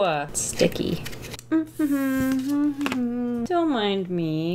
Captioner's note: hums